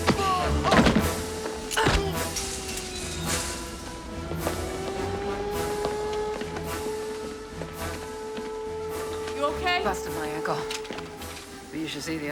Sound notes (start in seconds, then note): 2.0 alarm Continues